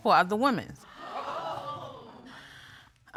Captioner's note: audience gasps